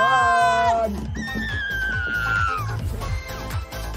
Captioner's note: screaming; theme music playing